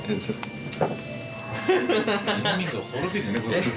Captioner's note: man laughing